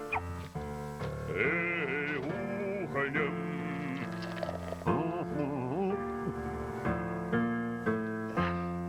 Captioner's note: playful music; moos